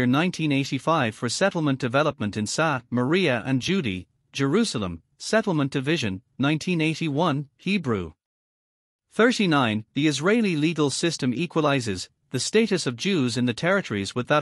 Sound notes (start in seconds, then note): 8.2 Hebrew